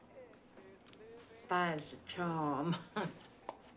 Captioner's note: chuckles